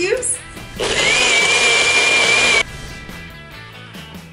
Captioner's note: blender whirring